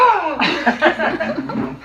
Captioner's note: laughing